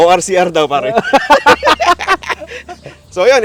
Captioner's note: laughs